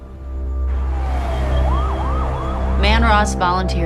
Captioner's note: siren wailing